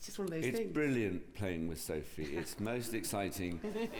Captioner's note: sophie laughs